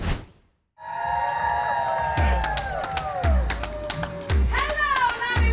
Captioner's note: applause